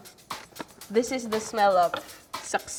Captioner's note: laughs